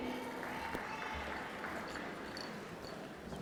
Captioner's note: applause